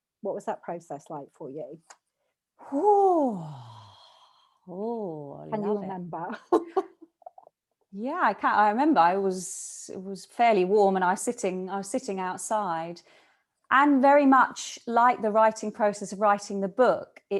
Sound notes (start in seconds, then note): 6.7 laughs